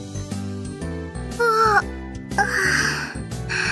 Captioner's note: Yawn